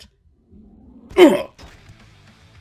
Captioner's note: cathartic grunt